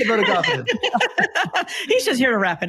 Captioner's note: laughs